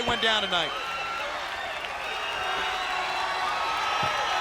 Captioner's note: crowd cheering